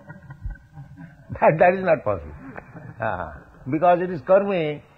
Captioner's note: laughter